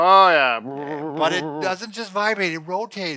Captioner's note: makes vibrating sound with his mouth